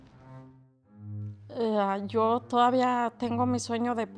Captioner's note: speaking Spanish